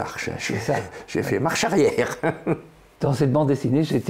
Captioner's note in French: rire